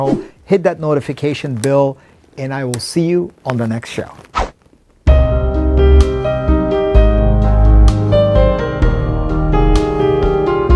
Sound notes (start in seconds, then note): 0.0 button whooshing; 4.2 whooshing; 5.1 gentle piano music